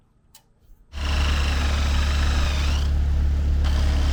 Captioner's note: drill buzzing